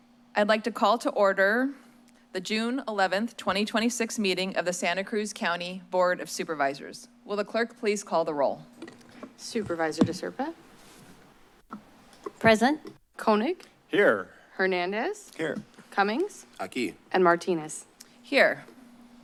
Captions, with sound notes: I'd like to call to order the June 11th, 2026 meeting of the Santa Cruz County Board of Supervisors. Will the clerk please call the roll? - Supervisor De Serpa? - Present. - Koenig? - Here. - Hernandez? - Here. - Cummings? - [foreign language] - And Martinez? - Here.